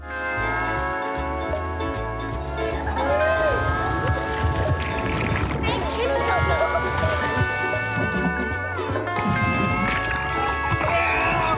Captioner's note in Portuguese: gritos de diversão